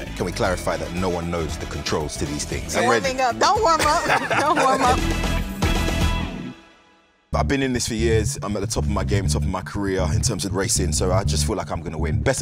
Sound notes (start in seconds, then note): 3.8 laughing; 5.6 upbeat music